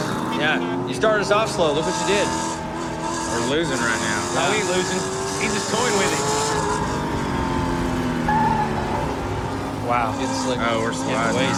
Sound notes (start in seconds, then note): 6.4 engines rumbling; 7.7 tires screech